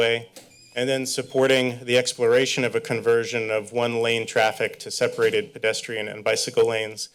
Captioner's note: none